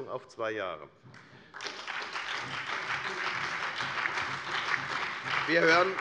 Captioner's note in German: Beifall bei der FDP, der SPD und den LINKEN